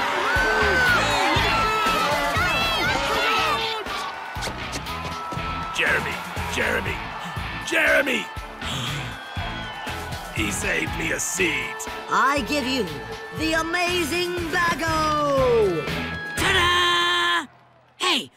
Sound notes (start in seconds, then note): 0.1 cheering; 8.6 gasp